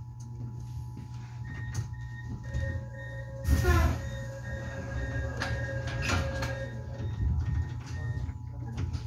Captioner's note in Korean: 출입문 열림